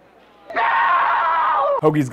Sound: Hoagy screaming in terror

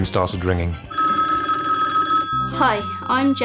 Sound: phone ringing

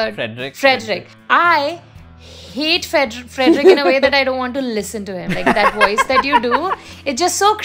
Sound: laughter

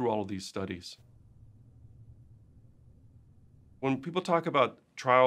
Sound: silence

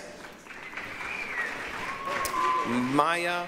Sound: applause, cheering

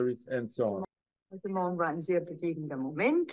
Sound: speaking german

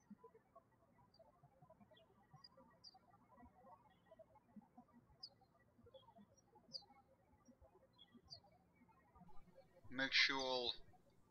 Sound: birds chirping

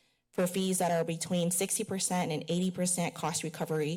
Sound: none

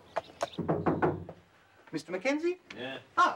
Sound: knocking on door

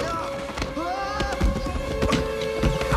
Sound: screaming

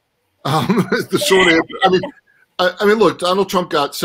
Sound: laughs

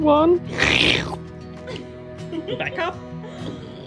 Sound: laughs

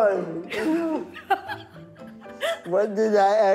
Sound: laughing

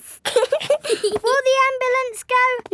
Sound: both giggling

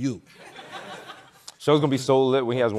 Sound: chuckling

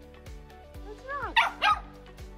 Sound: Sophie barks quietly

